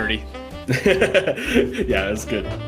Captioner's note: laughing